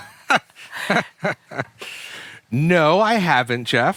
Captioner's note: laughter